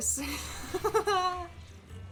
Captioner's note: joyous laughter